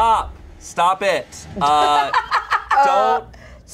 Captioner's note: everyone laughs